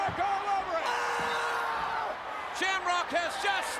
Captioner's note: Shamrock screams